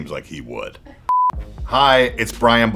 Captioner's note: beep